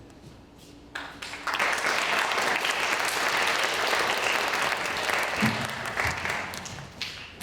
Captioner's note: applause